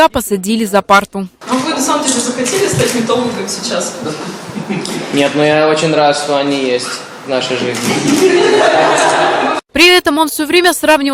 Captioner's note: laughing